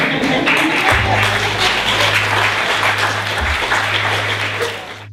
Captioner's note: audience applauds